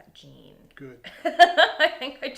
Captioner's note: laughing